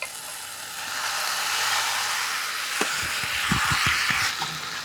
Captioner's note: food sizzling